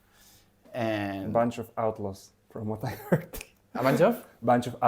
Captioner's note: laughs